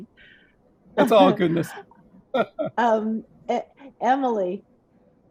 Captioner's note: laughs